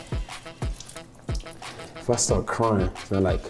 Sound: water splashes

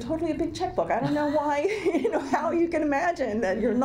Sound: laughs

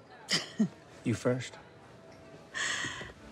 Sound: Maeve chuckles

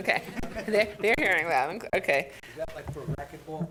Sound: audience laughs

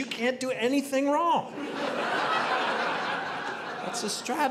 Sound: audience laughing

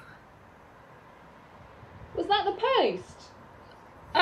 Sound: whispered; muffled, calling

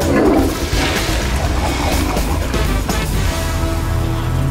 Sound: toilet flushing

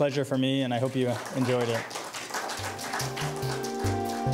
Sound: audience applauding; mellow electronic music

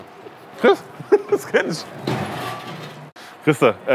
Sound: he laughs

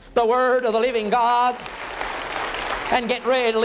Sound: applause

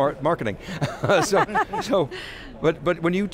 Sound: laughs

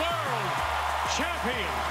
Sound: cheers and Applause

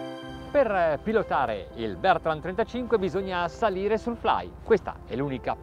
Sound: speaking in foreign language

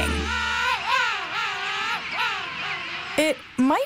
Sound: penguins singing

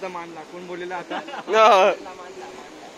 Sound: all are laughing

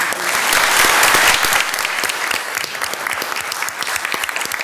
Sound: all loudly applauding

